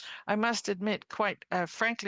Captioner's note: speaking French